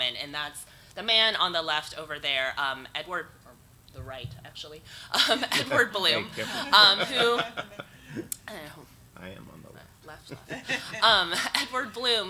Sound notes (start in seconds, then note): 5.4 chuckles; 7.3 audience laughs; 10.4 audience laughs